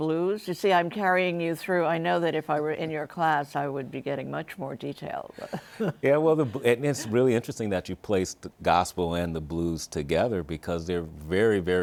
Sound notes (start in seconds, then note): 5.4 chuckles